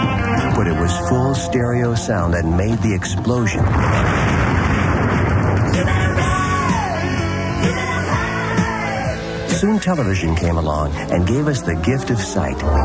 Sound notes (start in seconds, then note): 3.5 sound effects: explosion; 6.2 singing